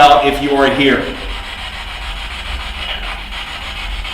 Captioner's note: static buzzing